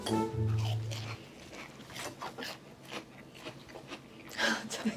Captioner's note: crisp, crisp crunch crunch